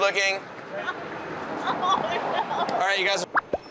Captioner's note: chuckles